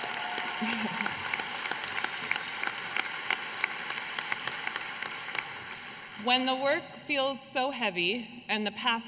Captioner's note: applause